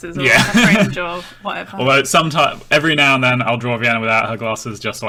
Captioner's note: gasps